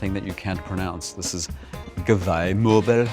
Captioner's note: speaks in foreign language